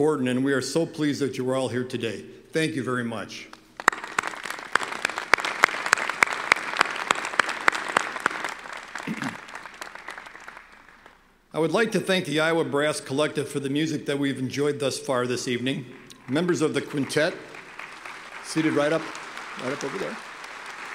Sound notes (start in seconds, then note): 3.7 applause